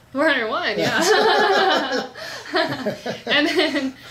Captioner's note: laughs